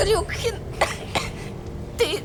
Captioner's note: hehing